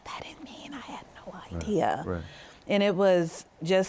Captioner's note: whispers